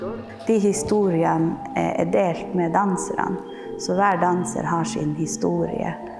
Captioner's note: speaking in Norwegian language